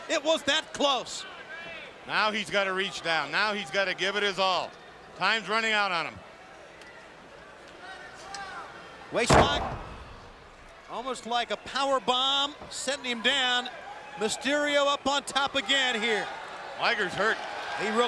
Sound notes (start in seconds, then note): 9.2 mat thumping